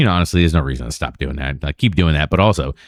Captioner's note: uh